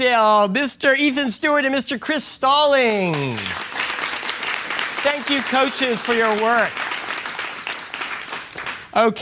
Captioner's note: applause